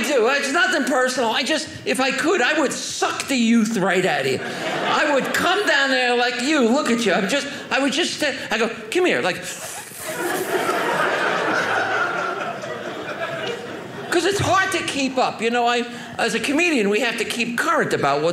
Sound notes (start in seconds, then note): 9.5 sucking noise; 9.9 audience laughing